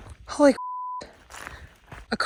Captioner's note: beep